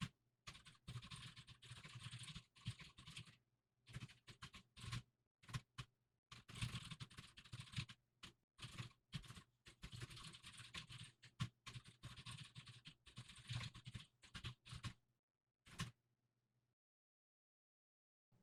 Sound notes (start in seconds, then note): 4.4 typing sounds